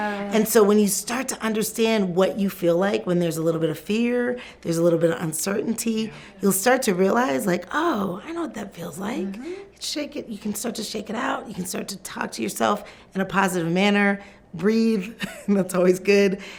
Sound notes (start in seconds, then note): 15.2 chuckles